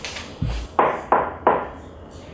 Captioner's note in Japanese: ノック音